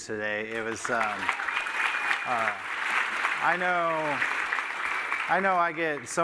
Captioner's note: applause